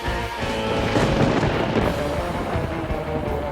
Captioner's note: thunder rolling; lively music